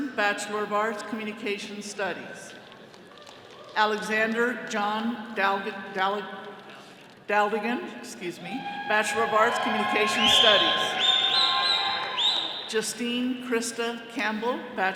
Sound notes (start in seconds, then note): 5.7 stammering; 10.9 all cheering